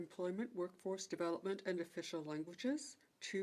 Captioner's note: speaking French